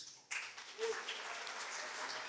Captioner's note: applause